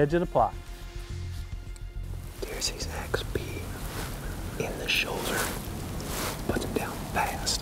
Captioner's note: whispering